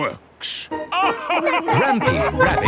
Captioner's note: all laugh